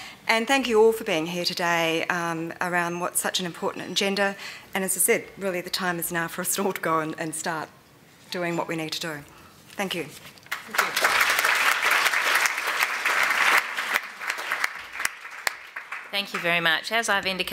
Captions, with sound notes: >> And thank you all for being here today around what is such an important agenda and as I said really the time is now for us to all go and start doing what we need to do. Thank you. [ Applause ] >> Thank you very much.